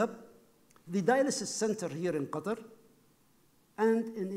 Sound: speaking foreign language

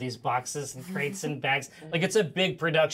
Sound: speaker chuckles

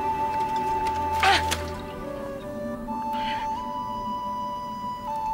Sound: Salene grunts

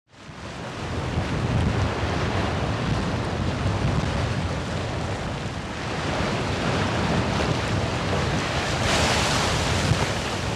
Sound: wind blowing and waves crashing

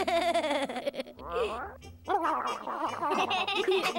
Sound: giggles

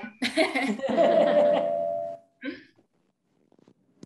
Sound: laughing

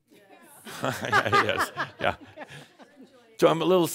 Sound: laughter

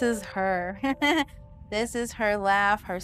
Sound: laughing

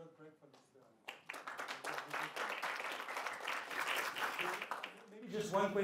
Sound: applause

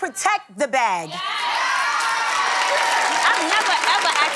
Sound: crowd cheering

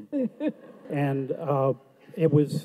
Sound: audience laughs

